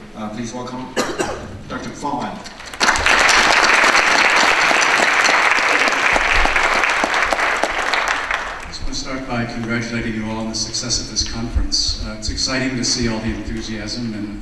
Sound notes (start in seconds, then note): 2.6 audience applause